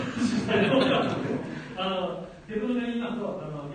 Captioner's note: laughs